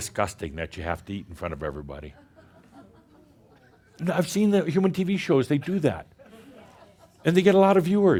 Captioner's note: more chuckles